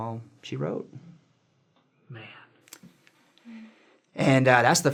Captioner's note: silence; continued silence